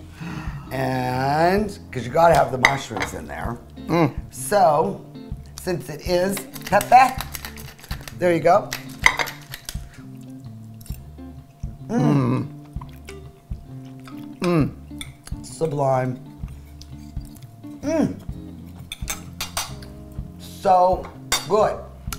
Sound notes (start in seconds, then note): 8.6 spice bottle clicking; 10.8 forks clanking; 18.6 fork clanking